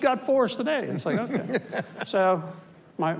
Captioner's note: laughs